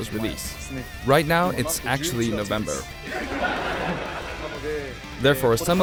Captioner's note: laughter